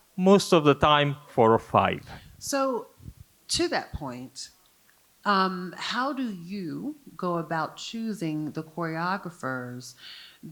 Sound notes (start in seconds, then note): none